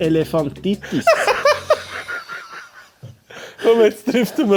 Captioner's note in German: lachen